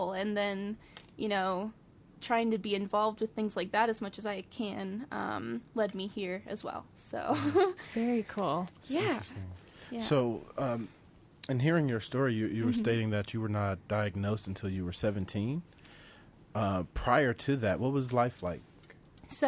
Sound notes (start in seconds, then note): 6.9 laughs